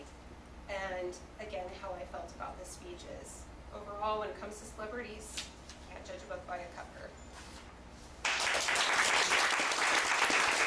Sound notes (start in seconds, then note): 8.2 audience applauding